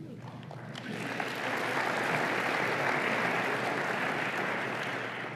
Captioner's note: applause